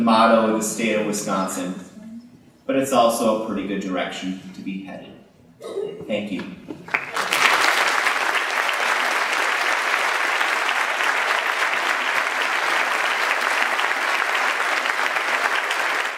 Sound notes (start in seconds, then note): 3.6 laughter; 6.7 applause